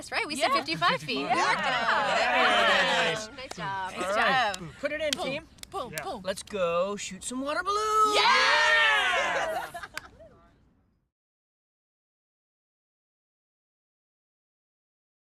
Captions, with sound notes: right, we said 55 feet. Nice job. Put it in, team. Let's go shoot some water balloons. [CHEERING]